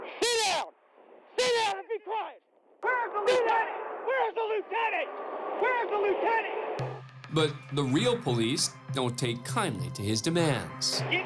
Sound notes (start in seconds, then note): 2.8 screaming